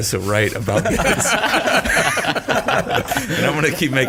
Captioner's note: all laughing